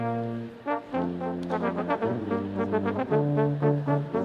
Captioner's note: none